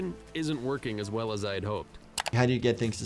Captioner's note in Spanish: clic